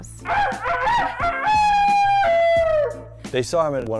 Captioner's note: rooster crowing sound